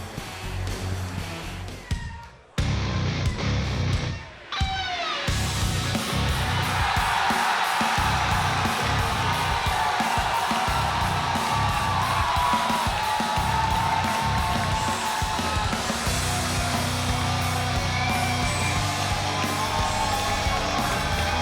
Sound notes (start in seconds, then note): 2.7 rock music; 6.0 crowd cheering; 16.3 crowd cheering; 16.3 rock music continues